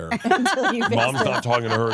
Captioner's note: laughs